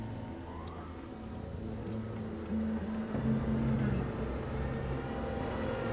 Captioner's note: handcuffs rattling softly